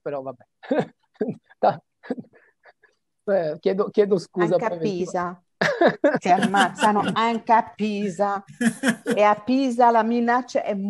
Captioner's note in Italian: risate